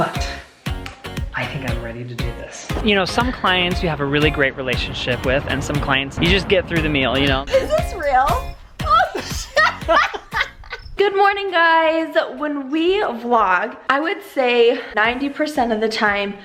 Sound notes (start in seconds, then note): 8.8 laughing